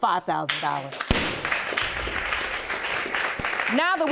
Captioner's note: audience applauding